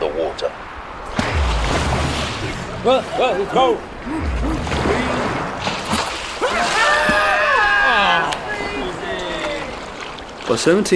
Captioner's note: splashing and screaming